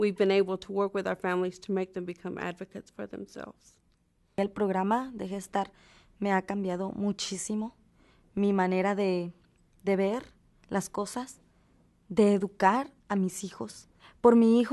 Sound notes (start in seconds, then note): 5.3 speaks in Spanish